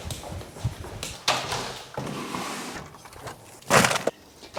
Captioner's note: door opens